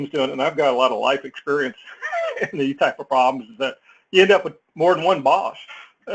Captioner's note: laugh